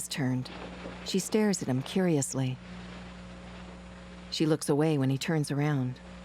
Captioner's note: rustling